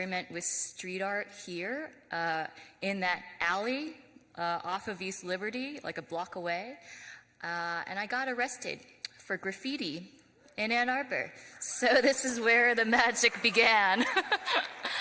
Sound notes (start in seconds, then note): 11.5 laughs; 12.7 audience applauds